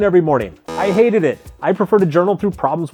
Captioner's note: timer buzzes